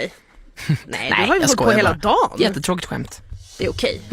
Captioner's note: laughing